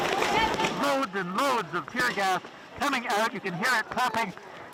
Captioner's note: gas cannons firing